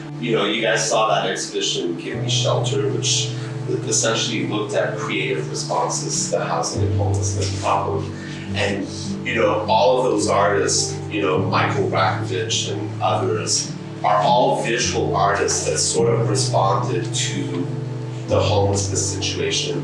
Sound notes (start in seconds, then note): none